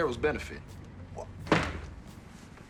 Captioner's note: stamps foot